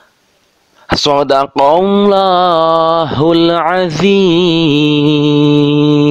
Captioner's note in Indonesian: dalam bahasa Arab